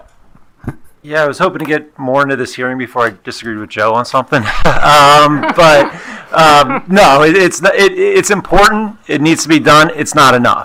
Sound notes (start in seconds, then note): 4.3 attendees laughing